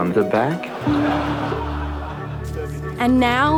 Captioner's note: all laugh